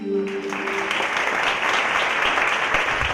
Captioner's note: applause